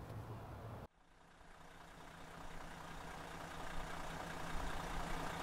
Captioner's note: engin purring